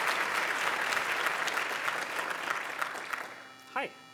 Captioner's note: applause continues